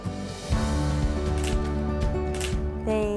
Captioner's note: gentle inspirational music; camera shutter clicking